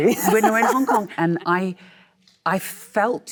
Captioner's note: Michelle laughs